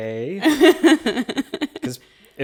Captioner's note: chuckles